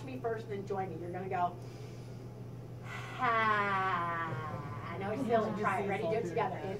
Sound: inhale and exhale sound

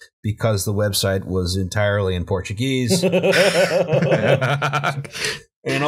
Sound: laughter

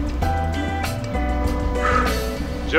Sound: sighing

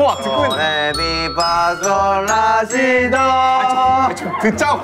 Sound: decibel is overpowering

